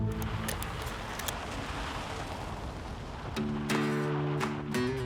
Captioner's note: tires crunching; laid-back country music